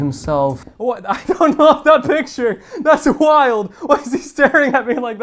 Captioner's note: laughing